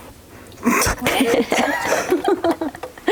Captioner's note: laughter